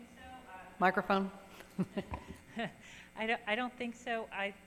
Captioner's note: chuckles